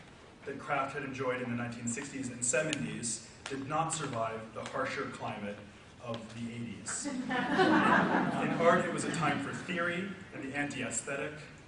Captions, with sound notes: that craft had enjoyed in the 1960s and '70s did not survive the harsher climate of the '80s. (audience laughs) In part, it was a time for theory and the anti-aesthetic,